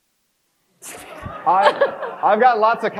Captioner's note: crowd laughs